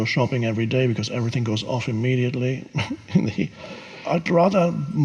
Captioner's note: chuckles